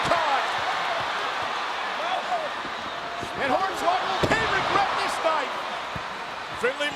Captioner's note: applause